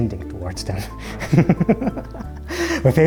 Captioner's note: laughs